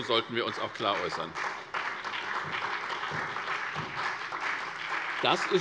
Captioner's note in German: Beifall SPD, BÜNDNIS 90/DIE GRÜNEN und vereinzelt DIE LINKE